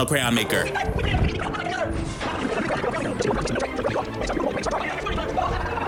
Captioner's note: man speaks in fast forward mode